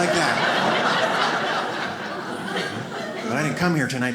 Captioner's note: audience laughs